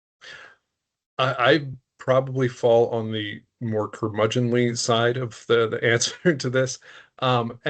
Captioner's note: chuckling